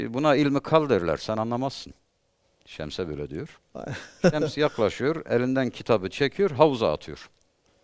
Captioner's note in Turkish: kahkaha